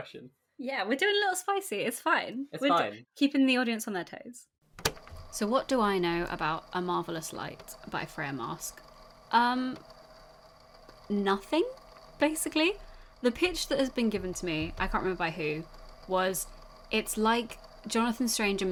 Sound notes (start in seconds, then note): 4.8 tape recorder clicking on; 4.8 tape recorder humming